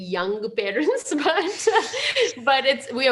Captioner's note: chuckles